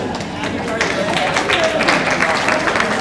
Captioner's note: audience laughs and claps; audience claps